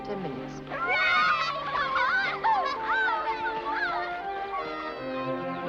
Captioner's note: sentimental music; children cheering; sentimental music